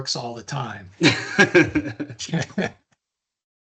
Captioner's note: laughing